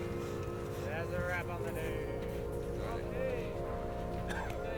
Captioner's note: indistinct chatters; soft music playing